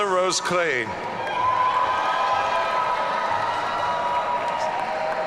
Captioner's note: audience cheering